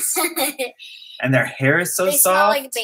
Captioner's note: laugh